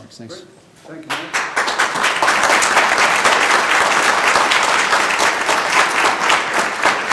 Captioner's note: group applauding